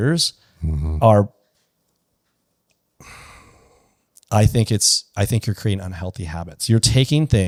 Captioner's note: sighs